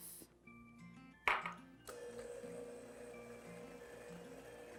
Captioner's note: glass clinks